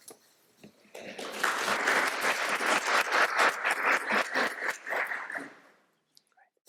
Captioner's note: applause